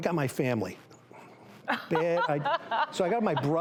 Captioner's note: laughter